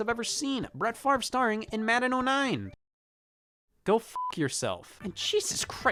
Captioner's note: beep